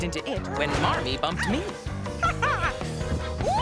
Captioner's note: laughs